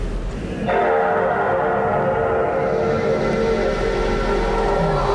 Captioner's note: PS2 start-up sound